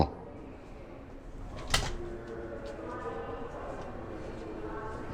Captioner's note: door clicks